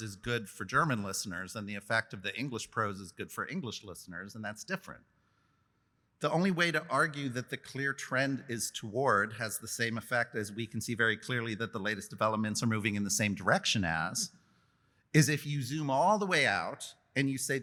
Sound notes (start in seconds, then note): none